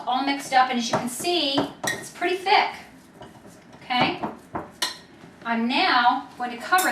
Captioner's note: spoon taps